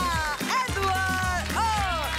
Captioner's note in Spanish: Aplausos